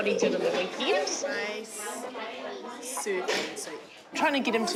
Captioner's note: children chatter indistinctly